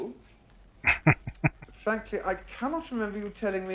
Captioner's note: chuckling